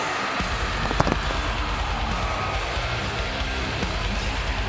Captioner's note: microphone crackles